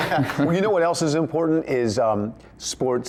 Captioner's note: laughter